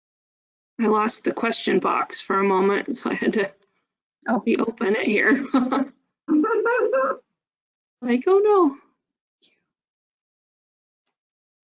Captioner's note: laughs